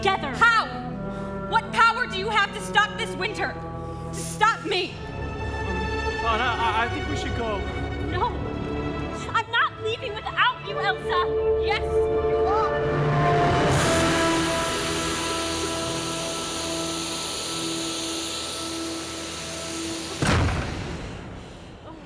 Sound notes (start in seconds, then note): 13.1 dramatic music; 13.7 ice hissing; 20.2 door slams shut